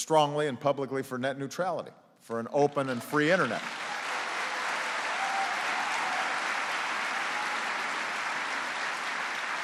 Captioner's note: applause